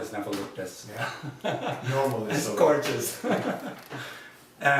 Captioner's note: laughs